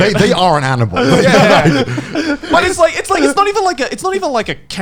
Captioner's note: laughing